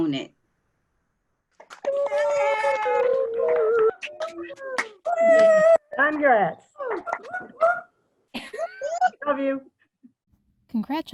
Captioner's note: cheering